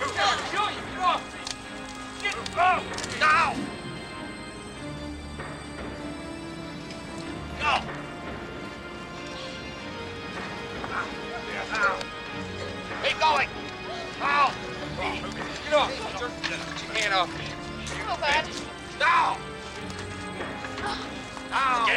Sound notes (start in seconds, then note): 0.0 people chattering; 9.9 man grunts; 14.9 men chattering; 19.1 people chattering